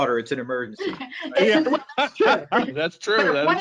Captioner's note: laughs